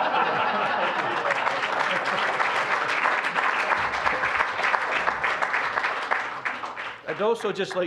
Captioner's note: audience laughing; applause